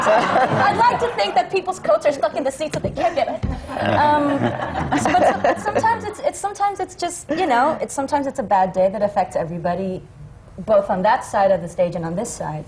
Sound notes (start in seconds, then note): 3.0 laughter; 8.0 laughter